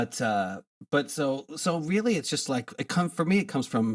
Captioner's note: none